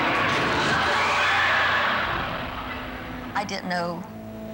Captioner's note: crowd screaming